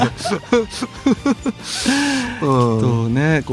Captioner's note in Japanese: 笑い